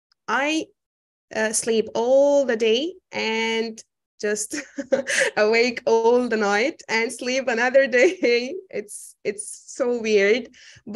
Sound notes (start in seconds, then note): 4.6 chuckling